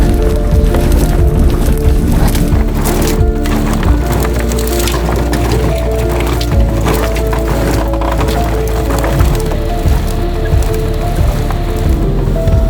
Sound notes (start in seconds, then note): 0.3 upbeat instrumental music continues; 3.1 rocks clanging; 7.9 vehicle creaking